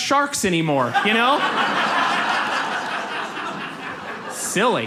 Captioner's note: audience laughs